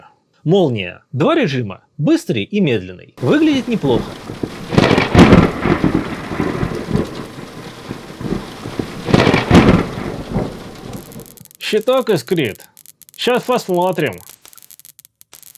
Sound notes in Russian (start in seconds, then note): 3.2 Гром и молния; 3.2 Звук дождя; 10.9 Звуки искр